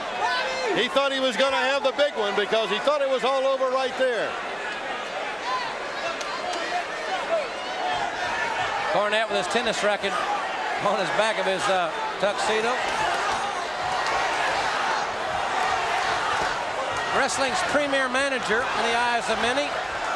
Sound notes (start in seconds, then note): 4.4 audience cheering; 12.8 audience cheering